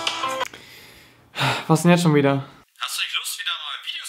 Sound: sigh

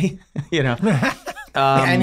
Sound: Charlie laughing

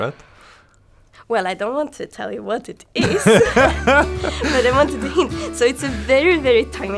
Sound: laughs

